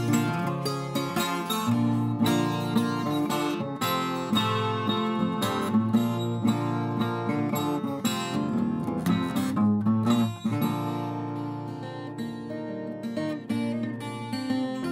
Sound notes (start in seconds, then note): none